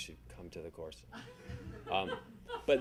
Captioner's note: audience laughing